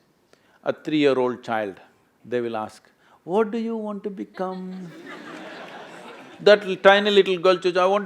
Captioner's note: laughter